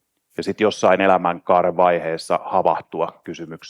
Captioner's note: none